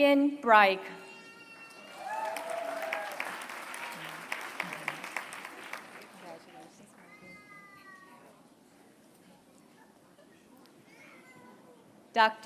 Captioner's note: applause